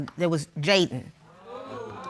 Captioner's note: audience gasp